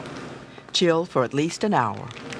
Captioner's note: voiceover